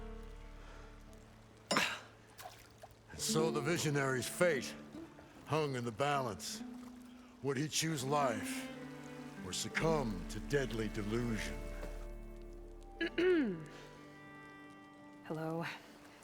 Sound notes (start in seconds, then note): 13.0 clears throat